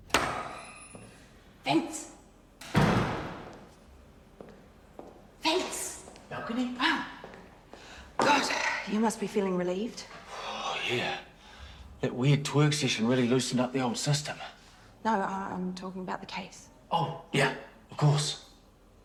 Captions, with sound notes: (GAVEL BANGS) - Vince. Vince! - Balcony? - Ah. God. You must be feeling relieved. - (SIGHS) Oh yeah. That weird twerk session really loosened up the old system. - No, I'm talking about the case. - Oh, yeah. Of course.